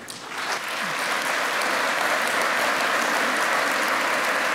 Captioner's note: applause